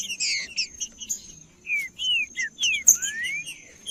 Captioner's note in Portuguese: trinca ferro cantando